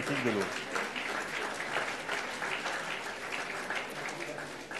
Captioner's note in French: Applaudissements